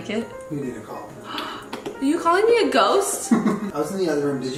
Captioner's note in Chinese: 吸氣